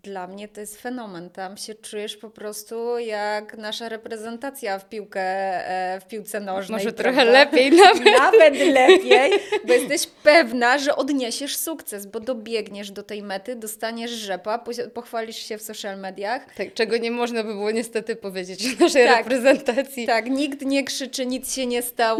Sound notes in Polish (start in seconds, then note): 7.6 śmiech